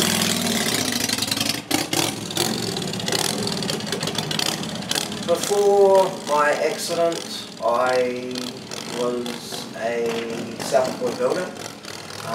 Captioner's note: motorbike revs